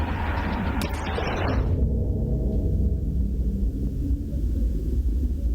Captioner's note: voices fade